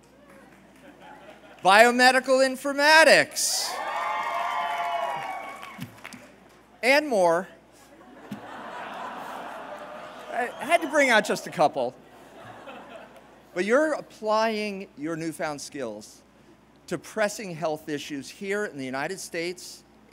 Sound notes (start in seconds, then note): 3.6 cheers; 7.8 laughter